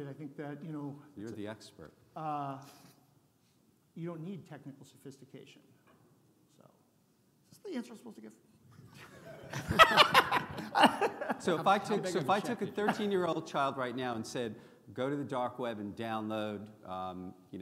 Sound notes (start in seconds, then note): 9.1 audience laughing